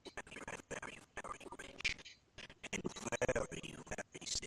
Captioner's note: audio skipping